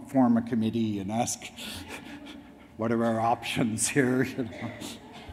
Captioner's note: laughs; audience laughs